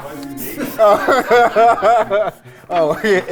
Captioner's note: laughs